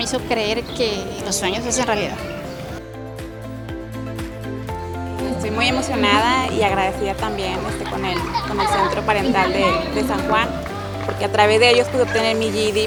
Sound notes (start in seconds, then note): 3.5 upbeat music; 5.7 speaking Spanish